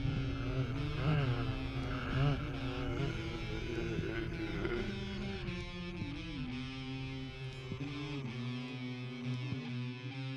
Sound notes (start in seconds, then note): 0.1 guitar strumming; 2.6 zombies moaning